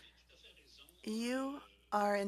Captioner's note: speaking French